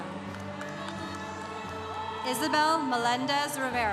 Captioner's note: congregation cheering